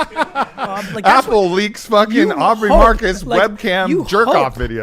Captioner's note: laughs